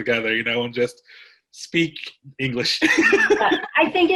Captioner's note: laughs